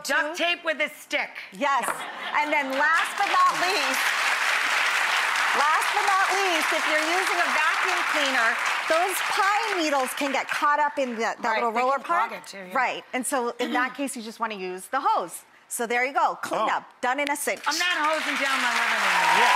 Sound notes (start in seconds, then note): 4.0 audience applauds